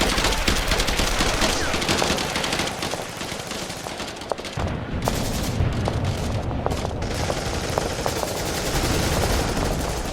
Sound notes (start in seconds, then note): 4.6 guns blasting; 4.6 rocks thudding